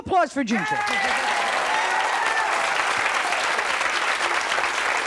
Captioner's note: audience applauding